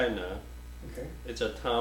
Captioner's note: offscreen Voice